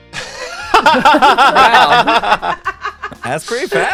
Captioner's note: group laughs